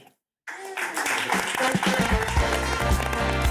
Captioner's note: applause